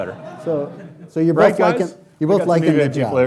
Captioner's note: laughing